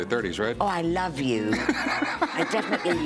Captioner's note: laughs